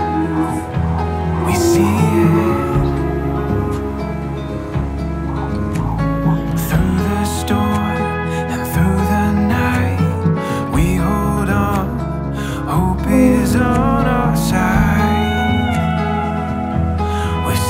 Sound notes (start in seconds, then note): 3.1 quiet moaning, fetal heartbeat on doppler; 13.8 quiet moaning